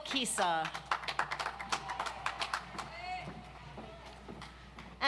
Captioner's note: audience applauds